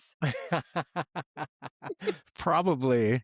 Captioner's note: laughing